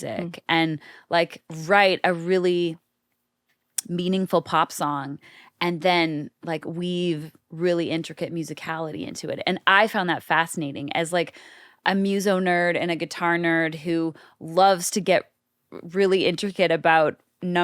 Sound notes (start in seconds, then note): none